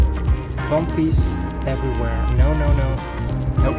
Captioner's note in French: en anglais